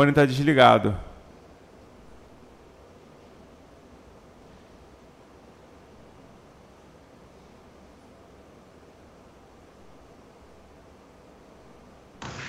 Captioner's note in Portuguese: Silêncio